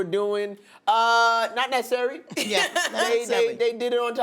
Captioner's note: laughter